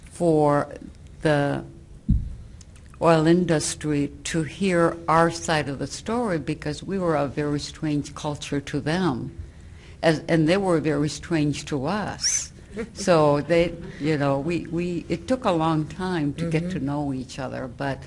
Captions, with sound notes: for the oil industry to hear our side of the story because we were a very strange culture to them. And they were very strange to us. [Some chuckling] So it took a long time to get to know each other.